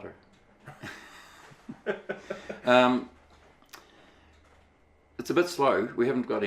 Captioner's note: laughing